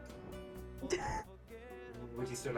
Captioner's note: laughing